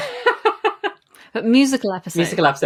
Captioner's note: laughs